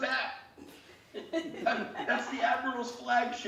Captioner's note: laughing